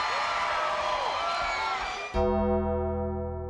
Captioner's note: crowd cheering; dramatic music